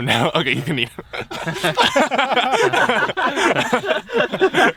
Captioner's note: all laughing